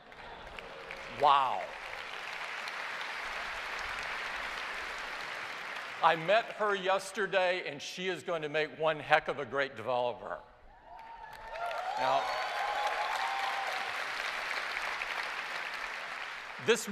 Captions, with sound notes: (Applause) I met her yesterday, and she is going to make one heck of a great developer. (Cheers and applause) Now, this week is about helping